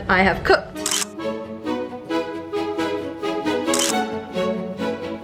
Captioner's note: camera shutters